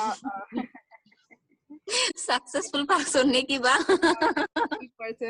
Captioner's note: laughs